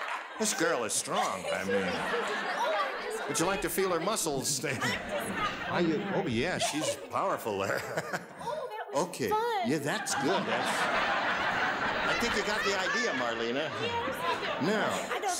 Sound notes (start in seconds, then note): 7.6 audience laughs